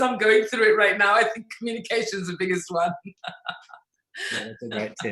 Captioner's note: laughs